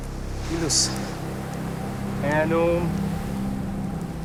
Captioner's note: speaking Latin